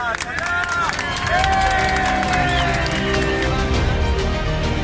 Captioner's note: speaking in a foreign language; passengers cheering; dramatic music